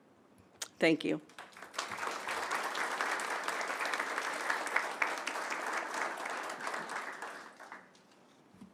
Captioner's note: applause